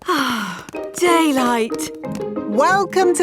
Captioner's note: sighs